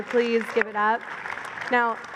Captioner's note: applause